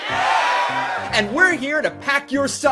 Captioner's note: audience cheering